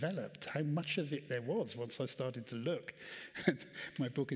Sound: chuckles

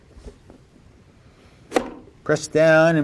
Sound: blade thunks

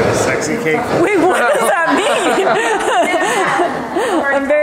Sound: laughs

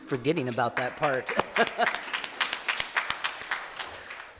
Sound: clapping

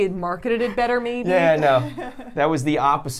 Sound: laughs

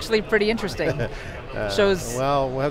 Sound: laughs

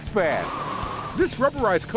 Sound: wind blows

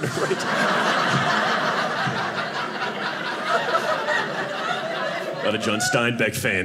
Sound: audience laughing

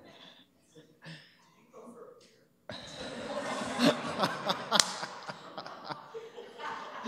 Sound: laughter

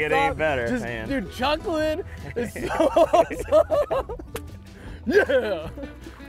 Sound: laughing

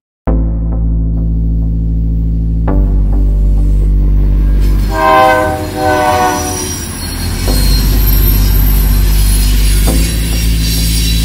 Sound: non-Diegetic Audio: Machines, Trains

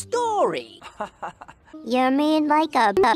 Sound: Johnny laughs

